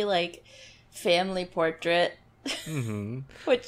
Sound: laughs

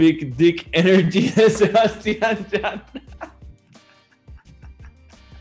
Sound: laughs

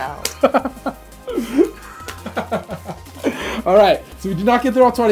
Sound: laughing

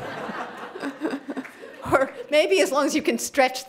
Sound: laughter

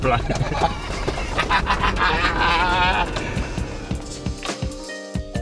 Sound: hearty laughing

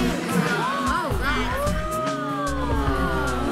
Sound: gasping

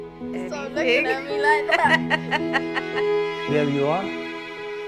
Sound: chattering, laughing

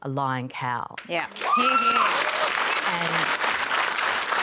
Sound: cheering and applause

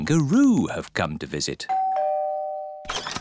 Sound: doorbell rings

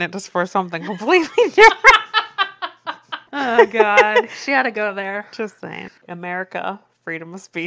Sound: laughs

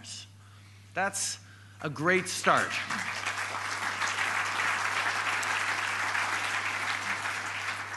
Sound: applause

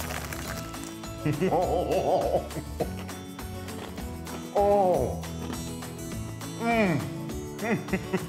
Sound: laugh

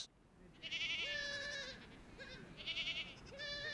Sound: goats bleating

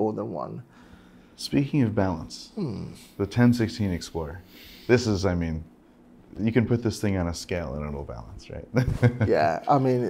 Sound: laughing

